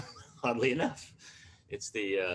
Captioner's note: laughs